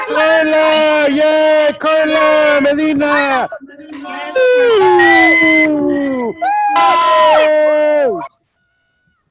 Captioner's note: cheering